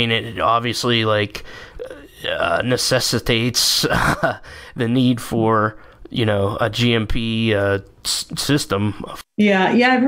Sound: stammering

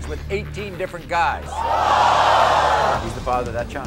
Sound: crowd reacting

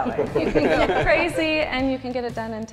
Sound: laugh

